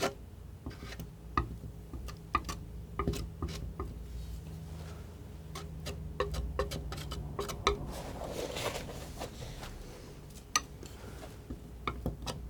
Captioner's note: tapping